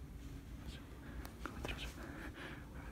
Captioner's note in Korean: 속닥속닥